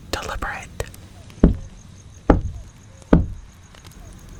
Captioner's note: three knocks